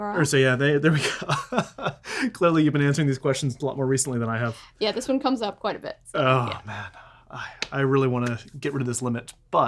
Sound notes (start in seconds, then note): 0.9 laughs